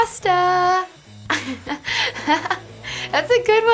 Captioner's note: giggling